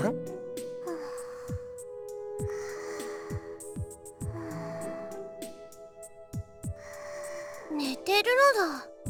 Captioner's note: snooze breathing